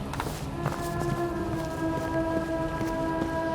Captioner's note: running footsteps